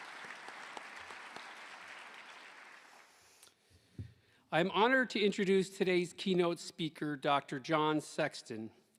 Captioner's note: applause